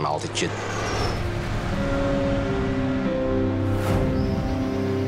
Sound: plane engine whirring; water splashing; tense music

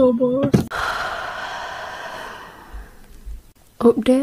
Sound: sighs

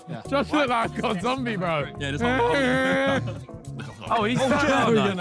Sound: moaning

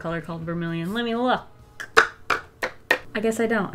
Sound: tapping

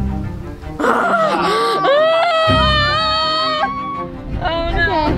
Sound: yells in stress

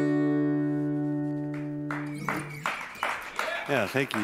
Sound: applause

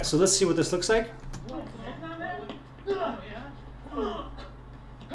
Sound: grunting and punching

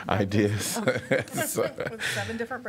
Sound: laughter

